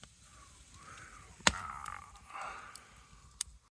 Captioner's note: carnivore noises